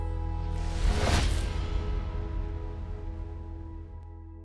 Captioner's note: logo whooshes